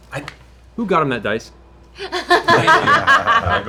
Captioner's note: laughter